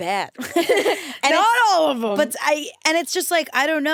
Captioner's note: laughs